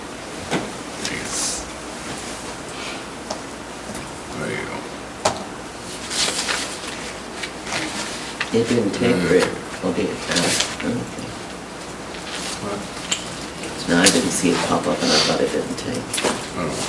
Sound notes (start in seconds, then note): 8.7 murmurs softly